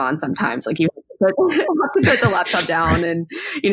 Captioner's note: mumbles and laughs